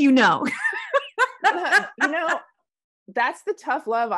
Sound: laughing

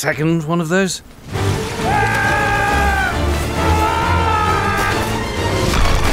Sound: jack yells

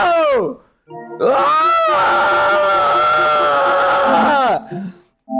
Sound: stressed twink screams

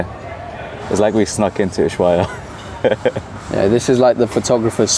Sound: laughs

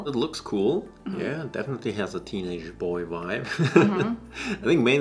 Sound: chuckles

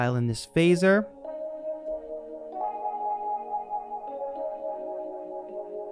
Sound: angelic lo-fi sound effect

